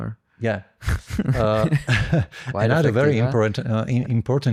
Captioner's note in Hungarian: nevetés